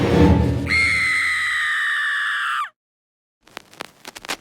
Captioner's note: woman screams; static crackling